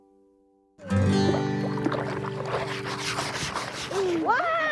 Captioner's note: water sloshing